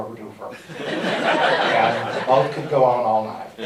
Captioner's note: laughter